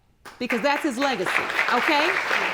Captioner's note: audience applauding